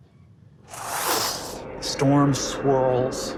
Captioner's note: mimics air whooshing